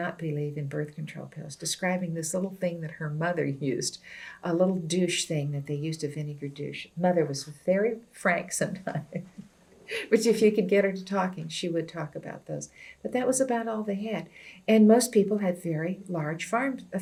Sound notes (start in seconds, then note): 9.5 laughs